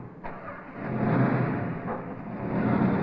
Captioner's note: engine starting